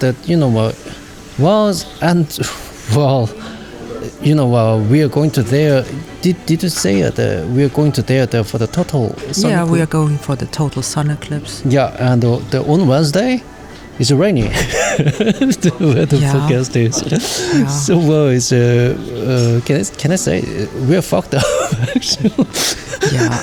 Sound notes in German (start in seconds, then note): 17.1 gelächter; 21.3 gelächter